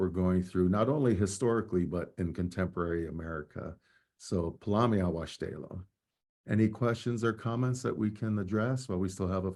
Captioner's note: speaking native language